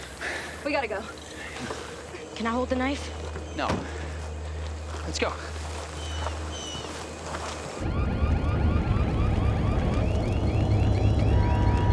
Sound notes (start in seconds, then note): 7.3 sirens blaring